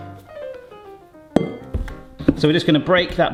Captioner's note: final cube plonks